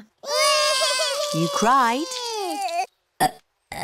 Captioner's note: both bawling; both burping